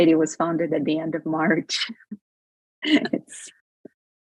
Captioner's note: laughs